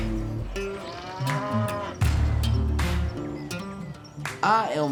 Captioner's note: mooing